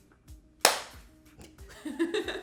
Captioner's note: loud clap; laughing